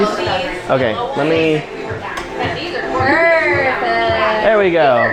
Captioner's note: women talking in the background